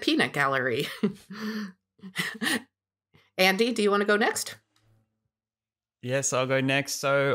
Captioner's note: laughs